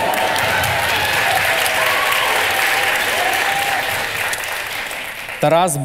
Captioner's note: the audience cheers